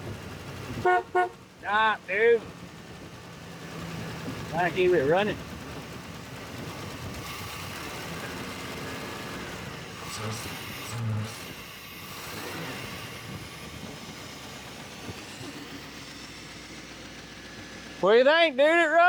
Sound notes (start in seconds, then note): 0.7 horn Honking; 5.8 motor Whirring